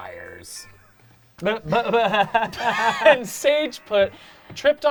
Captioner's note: laughing